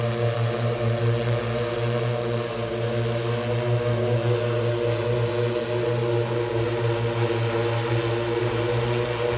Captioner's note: motors hum